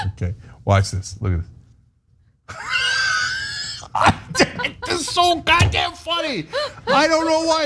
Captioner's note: laugh